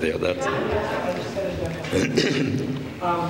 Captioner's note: laughter